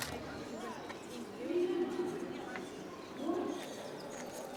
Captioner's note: camera shutter clicking; birds chirping